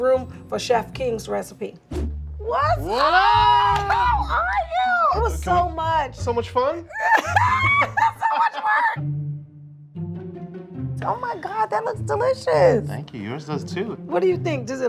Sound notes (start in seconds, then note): 6.9 laughs; 9.2 upbeat music